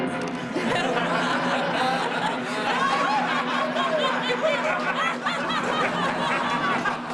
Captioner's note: laughter